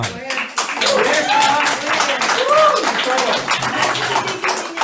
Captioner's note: audience applauds